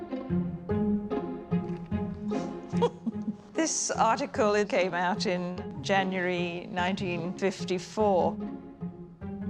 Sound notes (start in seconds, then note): 2.3 chuckling